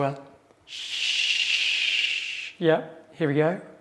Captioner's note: shushing